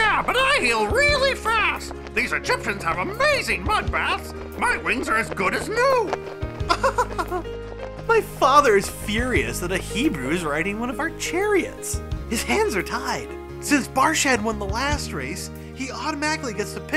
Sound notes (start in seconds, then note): 6.6 laughing